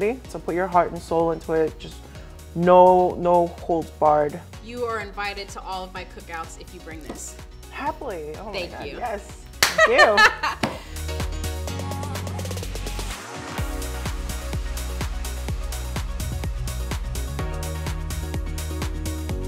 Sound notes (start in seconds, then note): 9.7 laughing; 11.5 upbeat music